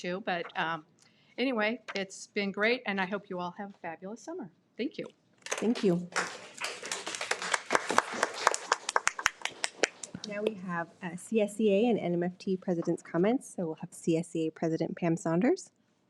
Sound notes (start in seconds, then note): 6.1 audience applauding